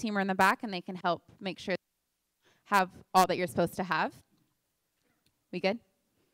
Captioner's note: audio cuts out